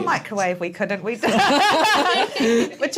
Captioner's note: laughter